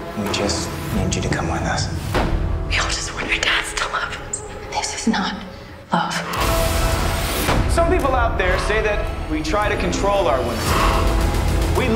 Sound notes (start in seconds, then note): 3.0 whispers; 6.1 shaky whisper